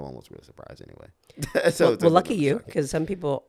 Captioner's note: laughs